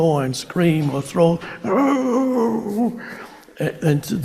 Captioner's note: instructor growls